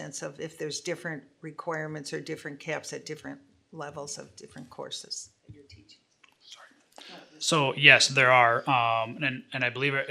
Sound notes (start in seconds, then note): 5.6 faintly speaking